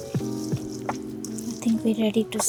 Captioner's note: mixing sounds